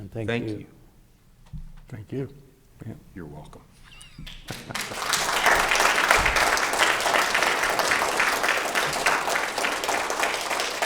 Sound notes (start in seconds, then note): 4.2 applause; 4.5 chuckles